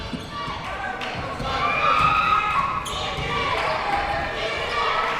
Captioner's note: yelling and chanting